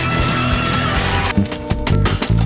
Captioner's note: film crinkles